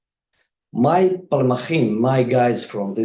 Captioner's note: speaks in foreign language